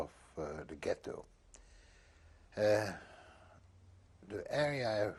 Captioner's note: pauses for 3 seconds